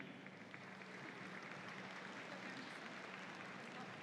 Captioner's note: audience applauds